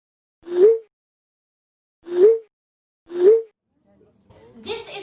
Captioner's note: text notification sounds